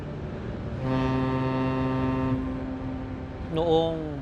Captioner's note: ship horn sounding